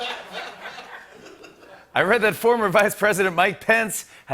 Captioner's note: laughter